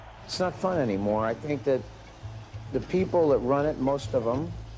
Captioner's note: crowd cheer; somber music